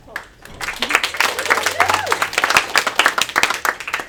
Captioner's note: attendees applaud